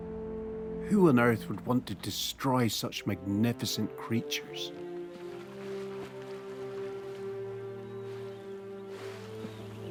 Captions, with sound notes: Who on earth would want to destroy such magnificent creatures? (water splashing)